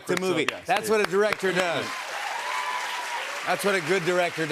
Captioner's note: cheers and applause